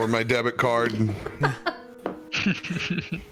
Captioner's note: chuckle; giggle